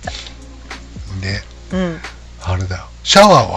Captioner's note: laughs